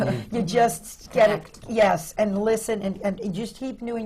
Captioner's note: laughter